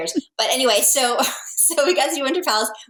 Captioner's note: laughing